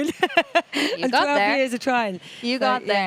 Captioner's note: laughs